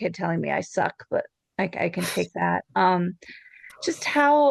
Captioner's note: laughs